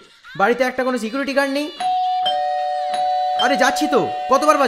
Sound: calling Bell Rings Repeatedly

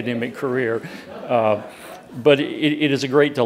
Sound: audience laughing

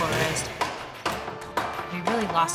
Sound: chopping

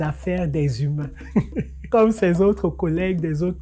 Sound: laughter

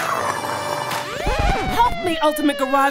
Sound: sirens

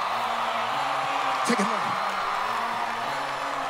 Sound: applause

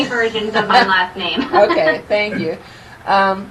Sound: chuckling

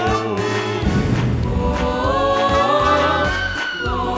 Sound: scream

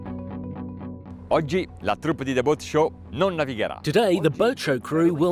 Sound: dramatic music; speaking in foreign language

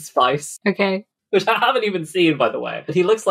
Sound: laughing

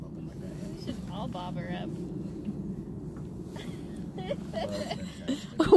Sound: laughing

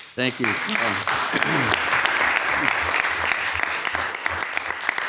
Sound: audience applauding

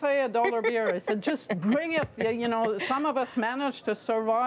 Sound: laughter

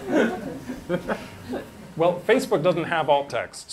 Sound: laughter

